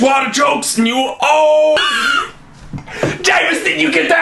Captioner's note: laughing